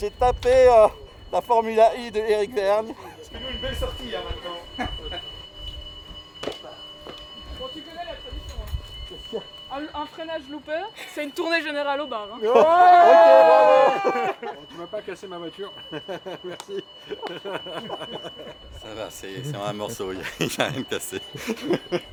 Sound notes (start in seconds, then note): 12.5 cheers